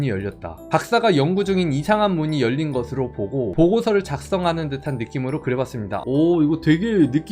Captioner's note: voiceover